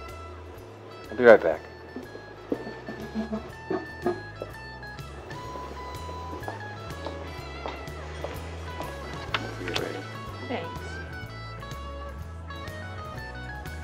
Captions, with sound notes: Be right back. (message notification beeping) - Thanks.